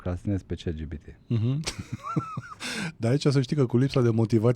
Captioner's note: laughter